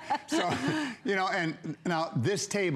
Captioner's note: laughter